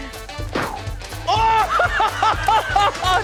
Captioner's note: laughs